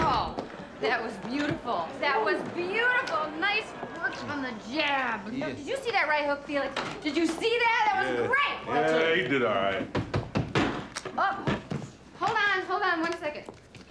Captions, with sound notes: That was beautiful, that was beautiful. Nice work on the jab. Did you see that right hook, Felix? Did you see that? It was great! Yeah, he did all right. (knocking at door) Hold on, hold on one second.